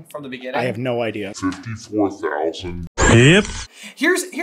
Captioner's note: slow and deep